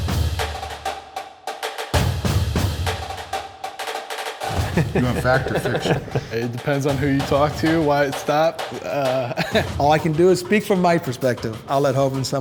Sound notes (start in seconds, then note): 0.3 percussive music; 4.4 laughing